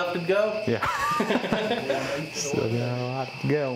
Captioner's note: laughter